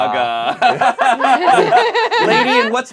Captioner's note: group laughs